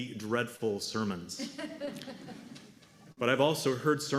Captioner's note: laughter